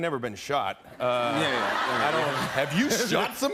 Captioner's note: laughter